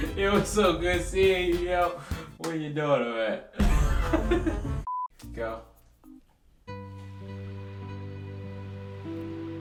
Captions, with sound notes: You know it's so good seeing you. Where your daughter at? (laughs) (comical music) Go. (serene music)